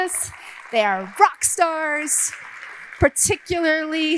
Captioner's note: audience applauding